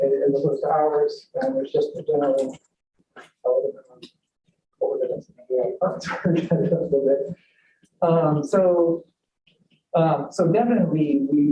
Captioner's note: laughter